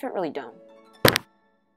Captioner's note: thunk